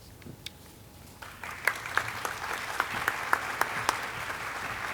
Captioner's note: audience clapping